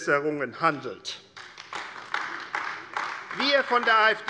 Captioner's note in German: Beifall AfD